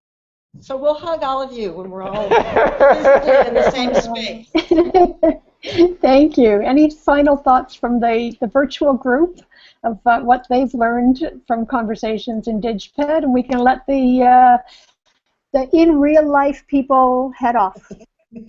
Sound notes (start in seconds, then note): 4.5 laughter